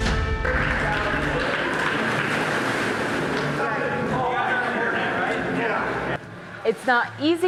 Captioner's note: chatter